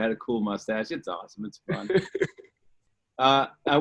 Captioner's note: laughs